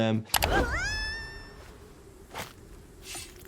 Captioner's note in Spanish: Uzi grita